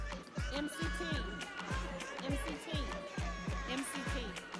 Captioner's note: audience chattering